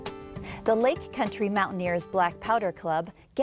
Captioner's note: soft guitar music; voiceover